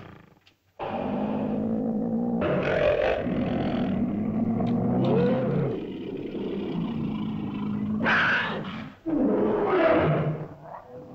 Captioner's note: dinosaur hisses and growls; dinosaurs growl & snarl